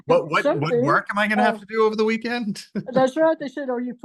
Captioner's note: pair laughs; laughs